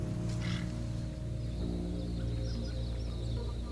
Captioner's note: birds twittering